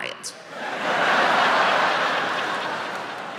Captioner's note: laughing